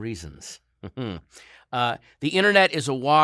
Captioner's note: laughs with anger